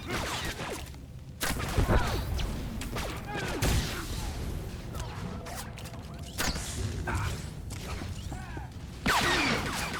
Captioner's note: gunshots